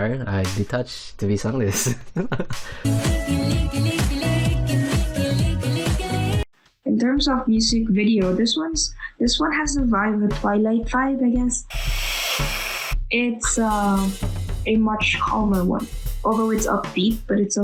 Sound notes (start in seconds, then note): 11.7 derp vampire sound